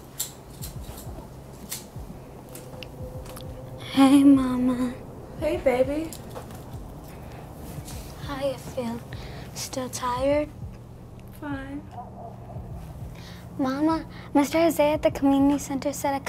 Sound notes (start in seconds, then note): 1.6 lighter clicking